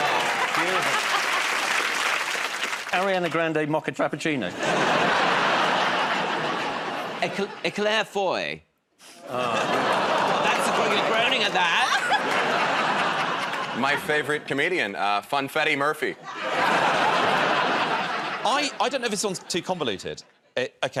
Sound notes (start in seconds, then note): 0.0 applause; 0.1 laughter; 4.5 laughter; 9.2 audience groans; 12.3 laughter; 16.2 laughter